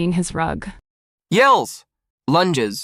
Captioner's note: yells